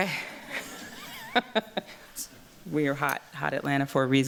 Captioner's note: chuckles